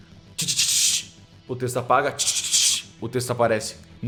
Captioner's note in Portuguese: tch tch tch